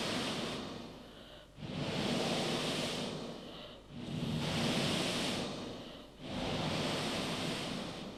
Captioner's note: shri mataji blows into the microphone